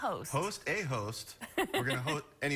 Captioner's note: laughter